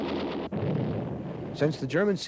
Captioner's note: cannon blasts